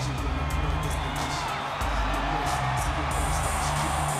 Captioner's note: crowd cheers